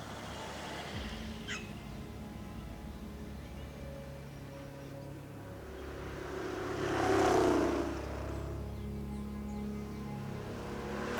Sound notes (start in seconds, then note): 0.0 truck engine passing; 3.9 birds chirping; 8.1 dramatic music begins